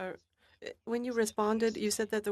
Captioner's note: speaking French